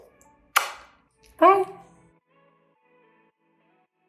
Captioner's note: smacks lips